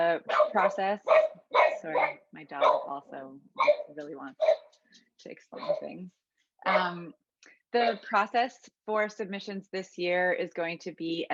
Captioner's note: dog barks